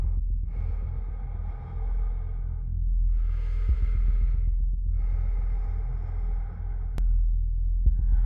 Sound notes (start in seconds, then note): 0.0 ominous music; 0.5 breath huffing